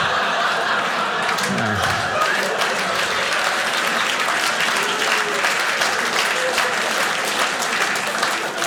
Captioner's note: audience clapping